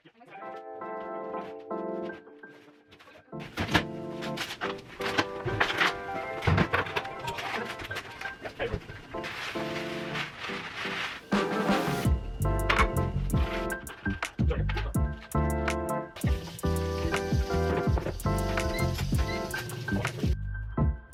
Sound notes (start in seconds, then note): 0.1 light music; 3.7 packages rustling